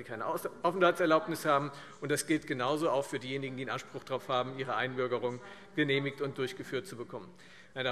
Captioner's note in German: none